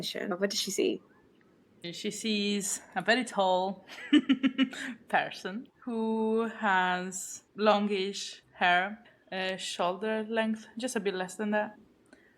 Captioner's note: evil laugh